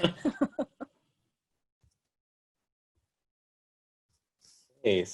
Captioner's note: laughter